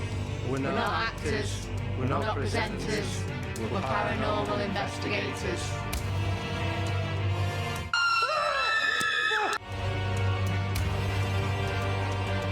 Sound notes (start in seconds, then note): 7.9 screaming